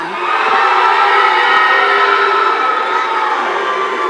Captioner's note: audience cheering